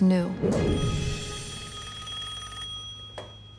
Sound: phone ringing

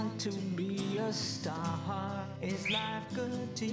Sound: whistles

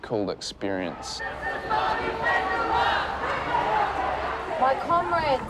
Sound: crowd chanting together

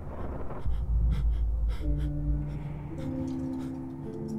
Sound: heavy breathing waking from a nightmare

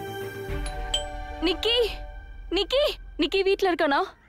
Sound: doorbell rings

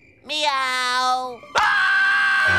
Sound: screaming

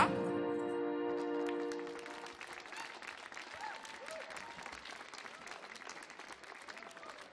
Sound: audience clapping; audience cheers

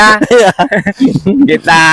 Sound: laughs

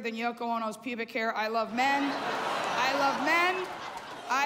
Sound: laughter

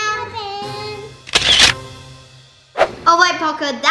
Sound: camera flash shutter

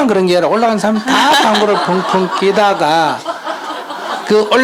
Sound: audience Laughter

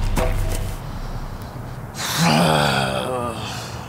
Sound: sighs

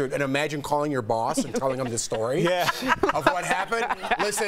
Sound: laughter

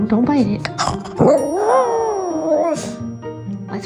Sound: howling

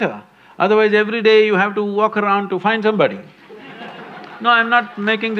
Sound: laughter/Applause

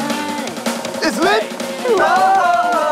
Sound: Gugup

